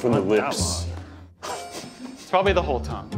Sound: laughing

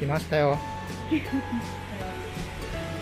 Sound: laughs

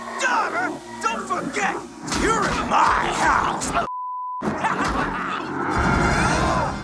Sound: beep; laughs

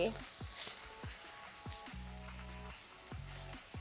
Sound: stems sizzling

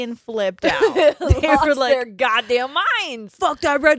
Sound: both laughing

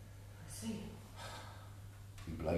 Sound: sighs

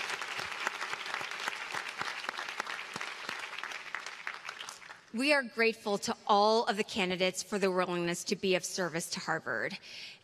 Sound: applause

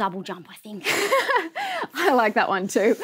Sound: laughs

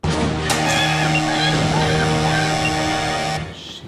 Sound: inanna screaming

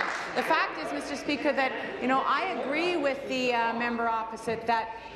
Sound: applause

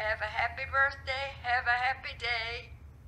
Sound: phone - singing

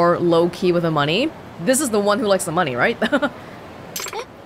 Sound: chuckles

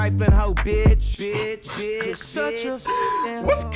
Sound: snickers

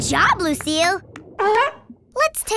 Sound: barking

